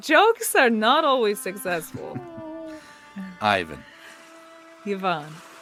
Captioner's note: laughs